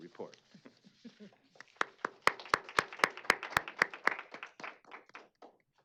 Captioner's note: applause